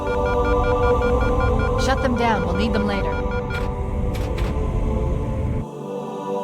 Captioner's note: alarm